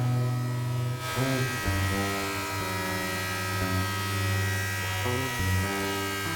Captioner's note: saw buzzing; tranquil music